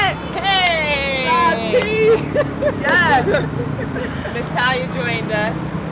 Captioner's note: crowd cheering